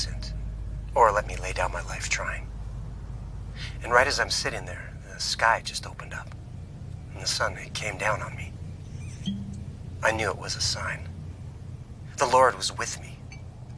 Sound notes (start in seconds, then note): 9.2 cork opens